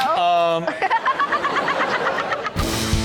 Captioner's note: Chanel laughs; upbeat music